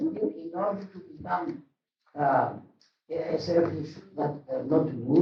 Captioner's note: speaks a word in Greek